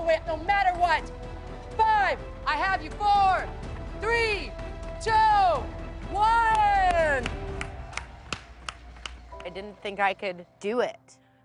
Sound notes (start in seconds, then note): 6.3 applauds